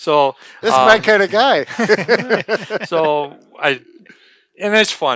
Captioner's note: laughs